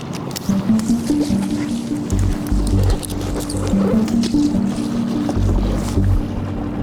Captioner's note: splashing; intense music continues